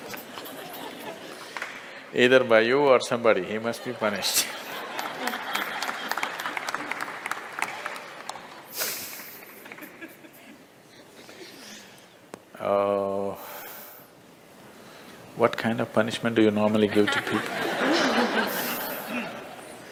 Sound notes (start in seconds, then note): 0.1 laughter; 8.2 laughter and applause; 16.8 laughter